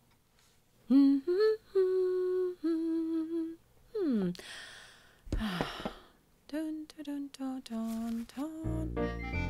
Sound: humming

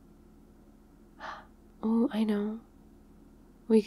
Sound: excited gasp

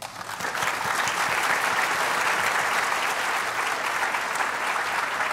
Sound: applause

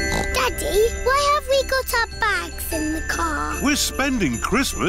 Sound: snorts

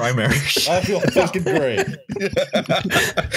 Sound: laughter

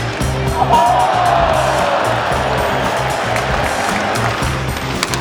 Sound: crowd cheering

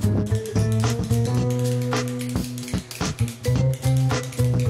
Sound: clicking pen

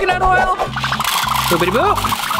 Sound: kernels pouring

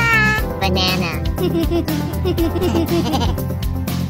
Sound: both giggle

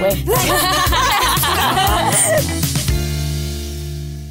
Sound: laughter

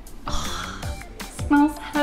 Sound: upbeat music; exhaling

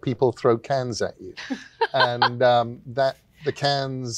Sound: laughs

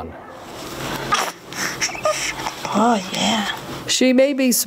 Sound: baby cooing

